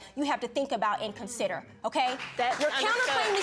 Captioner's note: audience agreeing